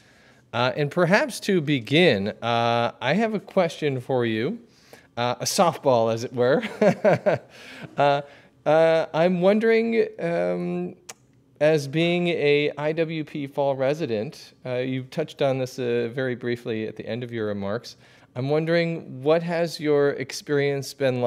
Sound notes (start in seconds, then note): 6.5 laughter